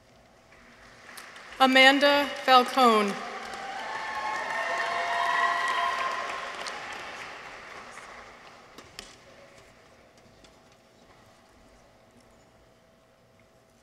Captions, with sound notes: Amanda Falcon. -(people cheer) -(audience applauds)